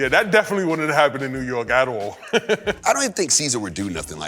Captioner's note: laughs